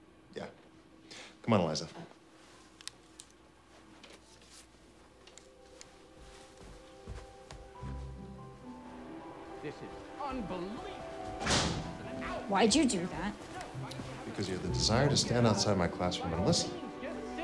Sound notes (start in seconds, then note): 5.6 gentle music; 11.3 door slams